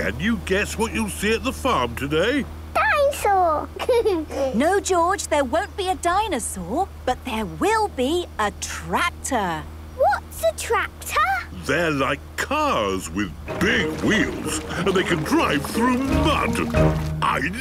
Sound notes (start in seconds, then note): 3.7 giggles